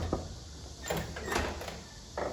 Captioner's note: door opens